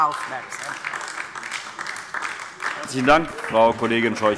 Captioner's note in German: Beifall DIE LINKE